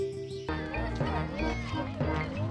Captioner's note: children exclaiming playfully